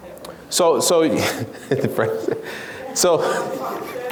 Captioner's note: laughs